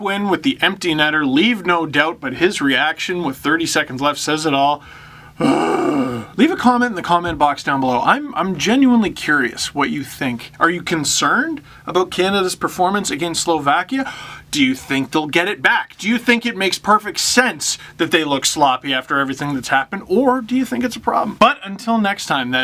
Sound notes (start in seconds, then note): 4.8 deep breath